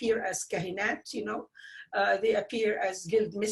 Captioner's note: speaking foreign language